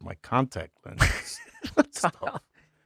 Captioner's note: laughing